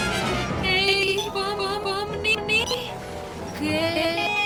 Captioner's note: glitched groaning; glitched, stuttered audio